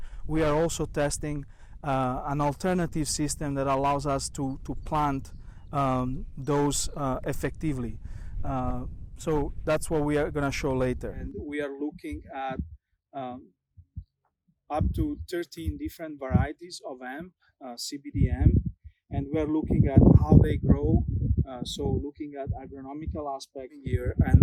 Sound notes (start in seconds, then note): 18.2 wind whooshing